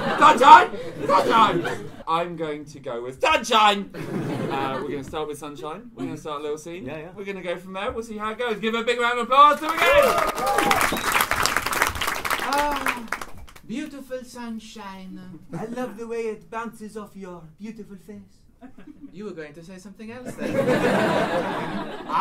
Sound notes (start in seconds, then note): 9.5 cheers and applause; 12.4 French accent